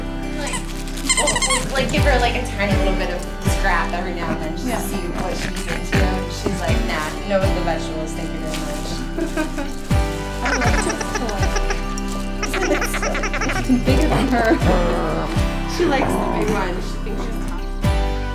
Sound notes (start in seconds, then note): 1.0 squeaky toy; 9.1 laughter; 10.4 lower pitched squeaky toy